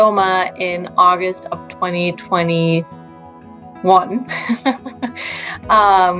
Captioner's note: laughing